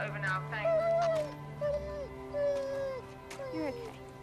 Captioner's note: dog whimpering